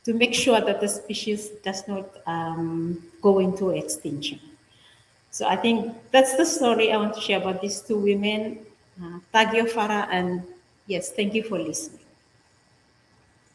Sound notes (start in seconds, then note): 9.2 speaking in different language